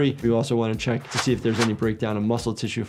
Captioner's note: graphics swishing